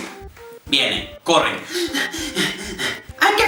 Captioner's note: panting